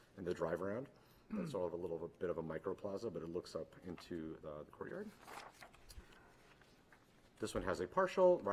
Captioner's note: clears throat